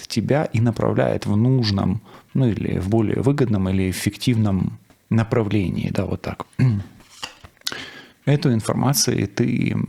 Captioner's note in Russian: откашливается